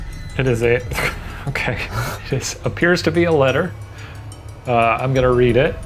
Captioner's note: laughs